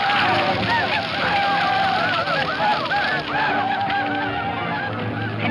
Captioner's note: Chief speaking foreign language; Native Americans hollering; dramatic music